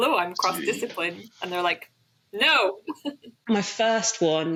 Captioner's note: laughs